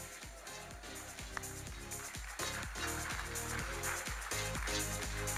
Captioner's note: audience applauding